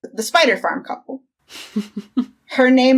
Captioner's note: laughs